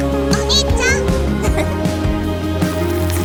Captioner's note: giggles